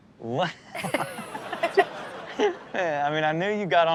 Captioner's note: laughs